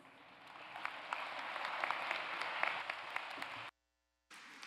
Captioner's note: applause